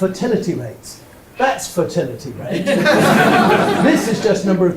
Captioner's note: audience laughs